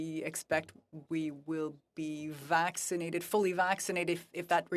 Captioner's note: speaking French